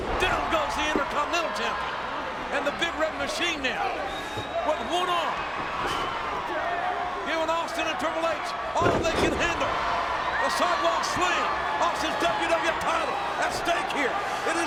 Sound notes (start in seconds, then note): 10.1 audience cheers